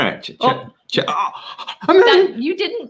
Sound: exclaiming

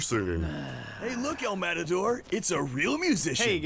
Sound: sighing

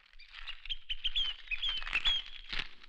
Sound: birds Chirping

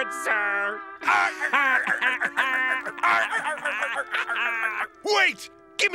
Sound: laughing

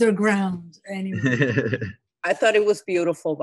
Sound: laughing

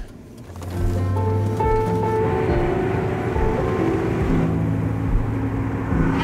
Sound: car engine humming; somber music

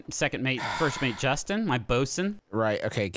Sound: sighs

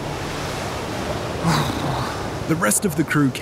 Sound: shivers

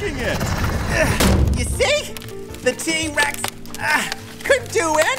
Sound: soundbite of thump, wood continues to crack

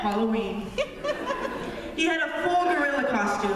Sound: laughter

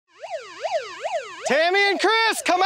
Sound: siren wailing

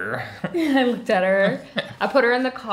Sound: laughing

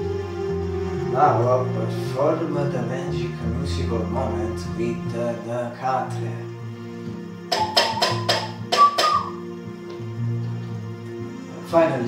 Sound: whistle

